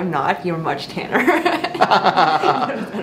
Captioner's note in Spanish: Ambos se ríen